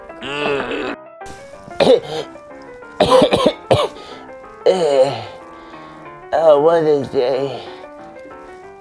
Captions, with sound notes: [GRUNTING] [CHOCKING, COUGHING] Oh, what a day.